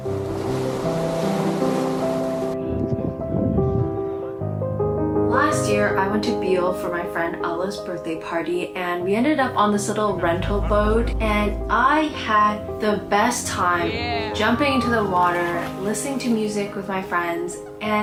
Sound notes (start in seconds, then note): 0.0 waves crashing; 0.1 bright music; 2.6 wind whistling